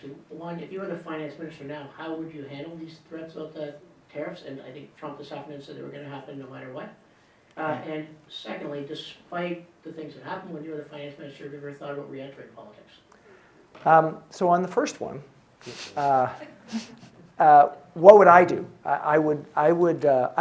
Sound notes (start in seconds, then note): 15.6 audience chuckling